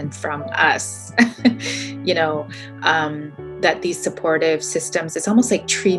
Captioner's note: laughing